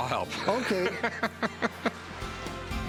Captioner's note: laughs